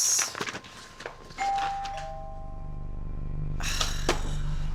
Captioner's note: doorbell ringing; Kate sighs over tense electronic music